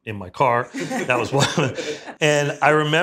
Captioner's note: laughs